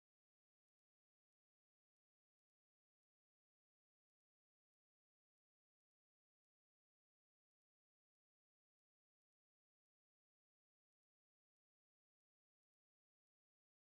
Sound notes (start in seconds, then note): none